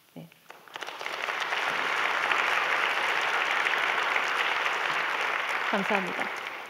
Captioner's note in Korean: 박수